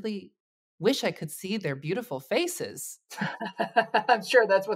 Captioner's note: laughs